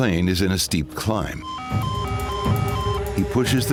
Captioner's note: beeping